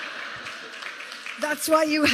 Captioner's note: laughter